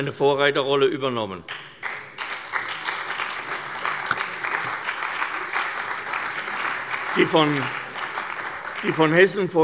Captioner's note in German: Beifall bei der CDU und dem BÜNDNIS 90/DIE GRÜNEN